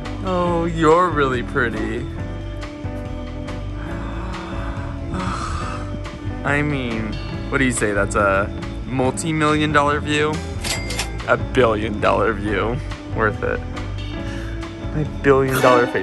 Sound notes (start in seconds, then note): 3.7 gasps; 10.6 cash register rings